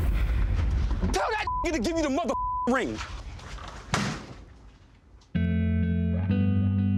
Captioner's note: beep